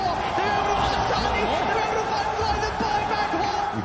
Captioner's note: crowd cheering